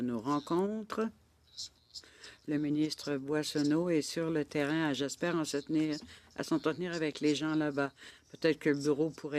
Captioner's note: speaking French; interpreter speaking French